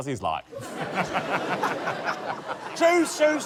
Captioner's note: laughter